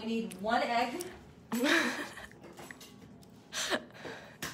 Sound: laughs

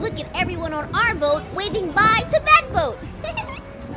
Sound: laughs

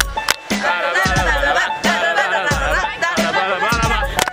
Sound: hums " "

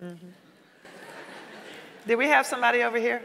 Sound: audience laughing

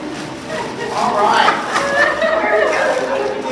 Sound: people laughing

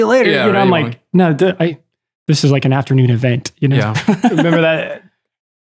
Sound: laughs

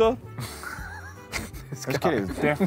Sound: laughing

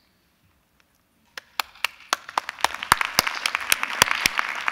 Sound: applause

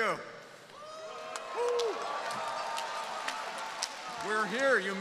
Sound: audience cheering

